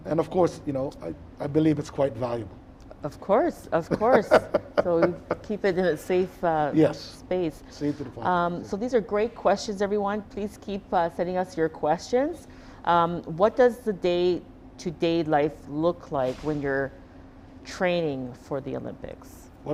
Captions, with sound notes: And, of course, I believe it's quite valuable. - Of course, of course. (Donovan laughing) So you keep it in a safe space. - Yes, safety deposit box. - So these are great questions, everyone. Please keep setting us your questions. What does the day-to-day life look like when you're training for the Olympics?